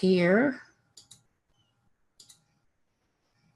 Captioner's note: mouse clicks